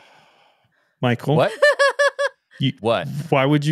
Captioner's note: laughing